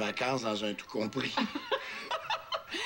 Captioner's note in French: Rires